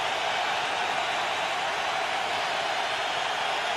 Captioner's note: crowd cheering